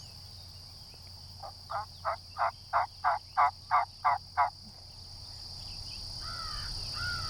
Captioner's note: crow caws; turkey calls